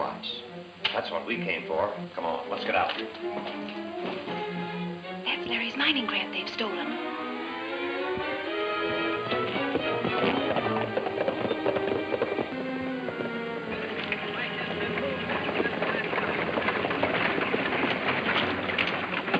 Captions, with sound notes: Mineral rocks. That's what we came for. Come on, let's get outta here. (dramatic music) - That's Larry's mining grant they've stolen. (people chattering)